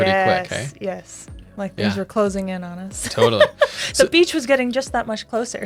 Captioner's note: laughs